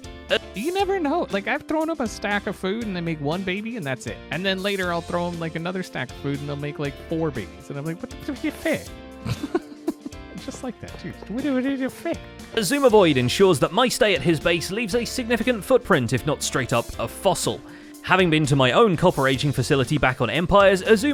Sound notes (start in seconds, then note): 8.5 stammers; 9.2 giggles; 10.4 repeats same stammer